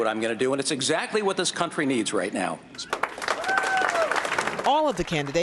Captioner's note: cheering and applause